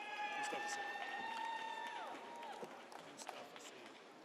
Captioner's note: audience cheers